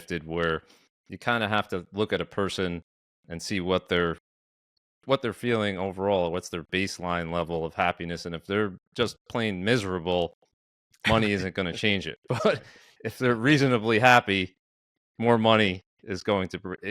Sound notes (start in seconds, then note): 11.0 laughs